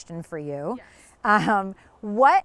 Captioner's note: chuckles